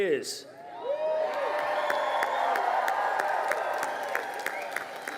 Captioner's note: crowd cheering